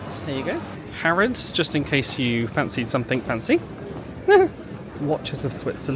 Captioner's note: laughs